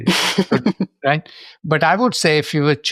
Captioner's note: laughs